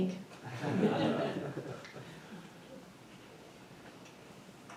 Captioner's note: attendees chuckling